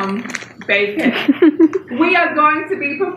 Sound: laughs

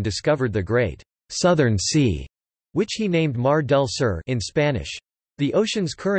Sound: in Spanish

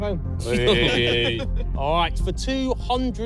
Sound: everyone laughing

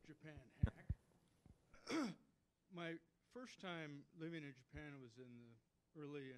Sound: clears throat

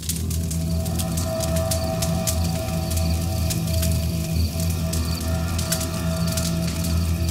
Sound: fire crackling

